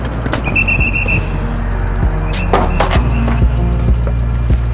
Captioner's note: whistle blowing